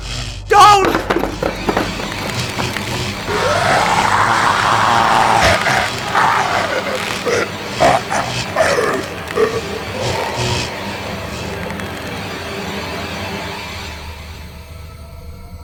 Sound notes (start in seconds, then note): 1.5 eerie music; 3.5 loud growling and grunting; 10.2 ominous music